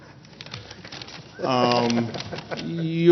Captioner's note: laughter